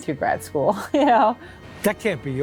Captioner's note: laughs